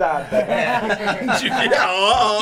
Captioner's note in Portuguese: risos